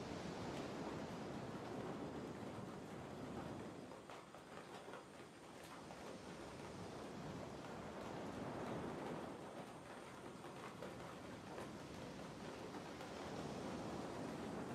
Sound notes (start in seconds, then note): 3.0 strong wind blows